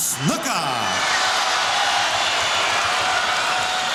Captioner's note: audience cheering